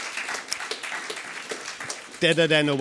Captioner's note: round of applause